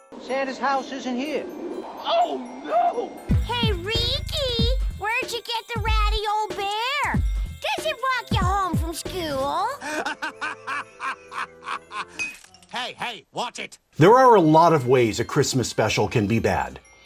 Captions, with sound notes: Santa’s house isn’t here! Oh nooo! Hey, Ricky! Where’d you get the ratty old bear? Does it walk you home from school? (Laughing evilly) *tink* Hey, hey, watch it! There are a lot of ways a Christmas special can be bad.